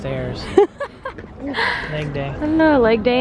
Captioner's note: laughs